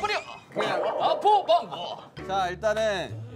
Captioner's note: kekeke